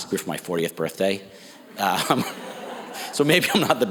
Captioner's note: audience laughs